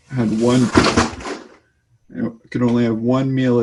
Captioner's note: books crash to floor